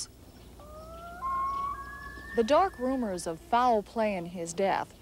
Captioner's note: loon calls